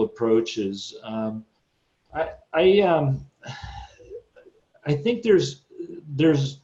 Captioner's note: sighs